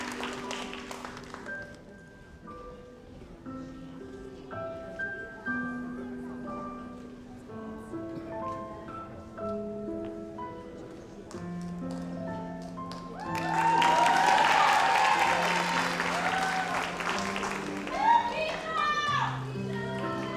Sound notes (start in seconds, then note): 2.1 gentle music; 12.9 audience applauds; 17.7 gentle music